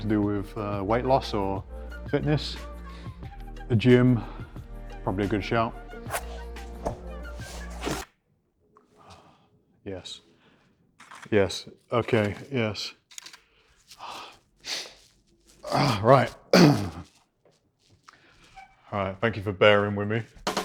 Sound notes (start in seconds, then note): 8.0 clicks; 13.1 clicks